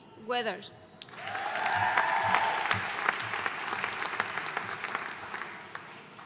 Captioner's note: audience cheering and applauding